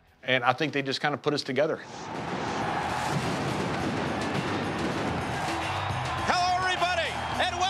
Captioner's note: applause